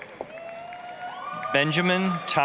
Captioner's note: applause, cheering